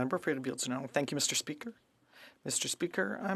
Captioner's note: speaking French